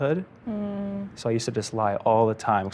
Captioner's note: hums